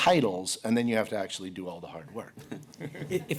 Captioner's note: laughter